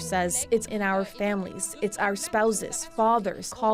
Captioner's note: speaking French